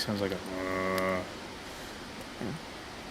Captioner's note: mimics cow mooing